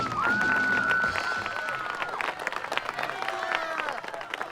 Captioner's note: cheering